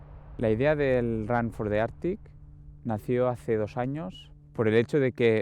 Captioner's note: speaking in foreign language